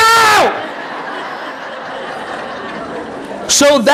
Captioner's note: audience laughing